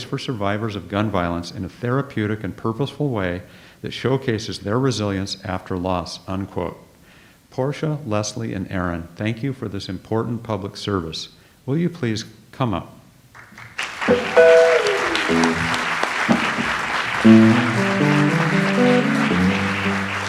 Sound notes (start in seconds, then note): 13.3 audience applauds; 14.9 light jazz music